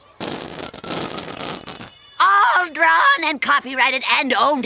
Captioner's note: sputtering, chiming